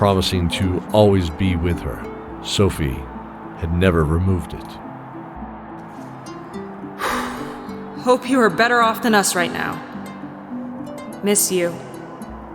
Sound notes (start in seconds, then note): 6.9 deep breath sigh